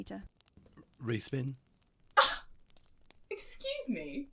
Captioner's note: Mary scoffs